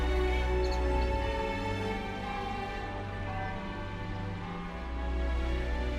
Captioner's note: bells chiming